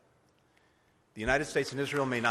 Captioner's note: applause